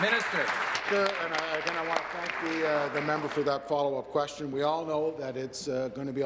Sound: applause

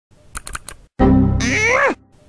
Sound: windows error sound

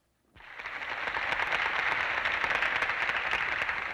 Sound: applause

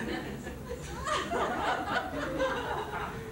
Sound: laughter

